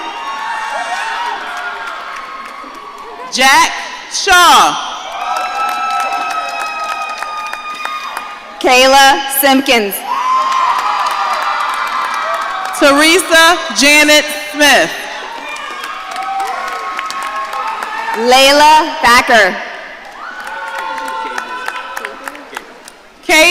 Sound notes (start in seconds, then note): 0.0 audience cheering; 5.0 audience cheering; 10.0 audience cheering; 15.1 audience cheering; 20.0 audience cheering